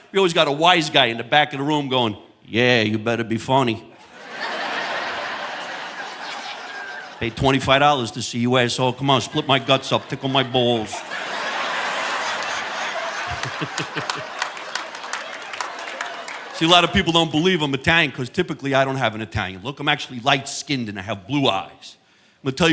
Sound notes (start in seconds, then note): 3.9 audience laughing; 11.8 audience laughing; 12.8 chuckles